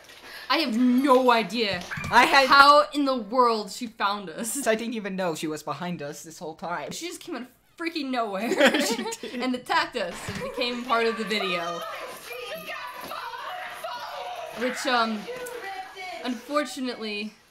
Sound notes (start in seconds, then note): 8.4 laughter